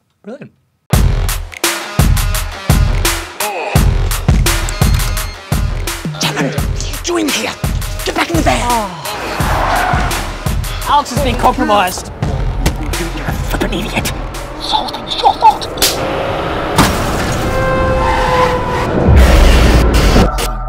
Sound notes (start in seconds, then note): 15.8 slap; 16.9 horn honking